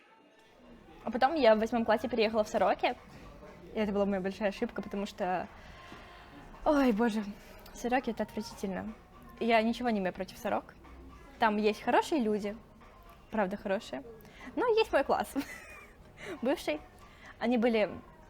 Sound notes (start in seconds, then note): 15.3 laughs